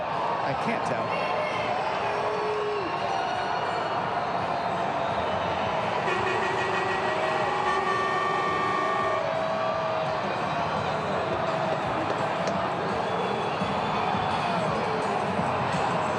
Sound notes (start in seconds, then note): 4.9 applause